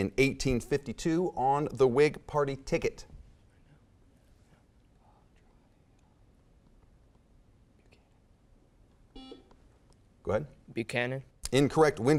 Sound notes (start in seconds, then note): 4.0 whispering; 9.1 beeping